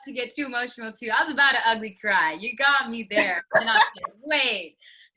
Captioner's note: laughs